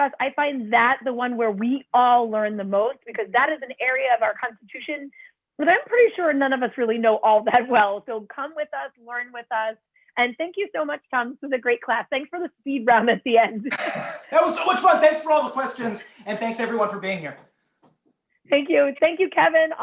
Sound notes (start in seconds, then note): 13.6 laughter